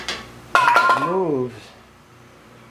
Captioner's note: paint can clangs